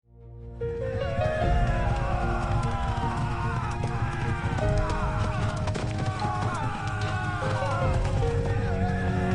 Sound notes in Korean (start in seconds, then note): 2.6 비명; 5.9 비명; 5.9 신음